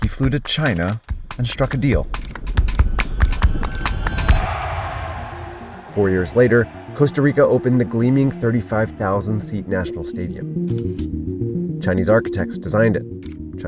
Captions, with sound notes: He flew to China and struck a deal. (energetic music) (crowd cheering) Four years later, Costa Rica opened the gleaming 35,000-seat national stadium. (energetic music) Chinese architects designed it.